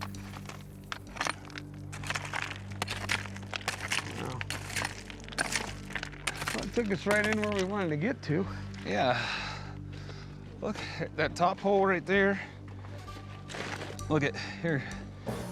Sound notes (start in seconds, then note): 0.0 footsteps; 2.7 clawing, picking